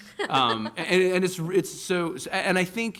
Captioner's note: laughter